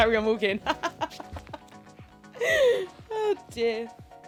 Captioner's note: laughs